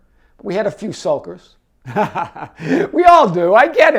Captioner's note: chuckling